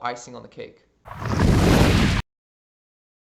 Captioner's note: thunder